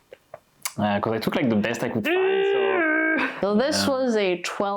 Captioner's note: spondebob gross sfx